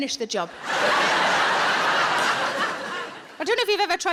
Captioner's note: audience laughing